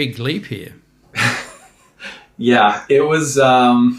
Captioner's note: laughs